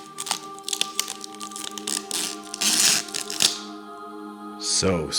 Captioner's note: ambient music; plastic peeling